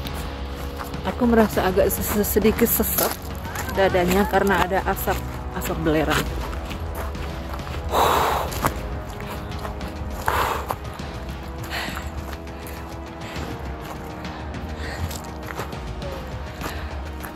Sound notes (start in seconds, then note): 7.5 breathing hard